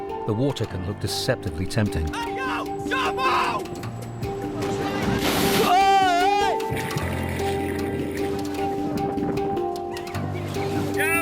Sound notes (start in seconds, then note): 5.4 water splashes; 7.2 mysterious music continues